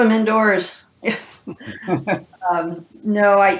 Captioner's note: laughs